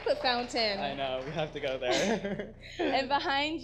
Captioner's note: laughs